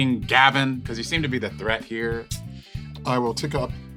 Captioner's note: sucks air through teeth